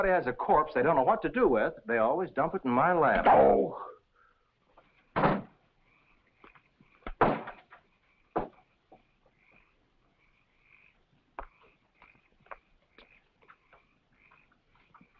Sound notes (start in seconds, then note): 5.1 door bangs; 9.4 frogs croaking